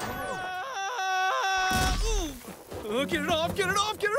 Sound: thuds

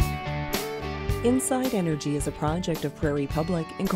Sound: voiceover

